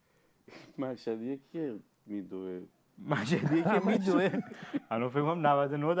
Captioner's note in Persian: خنده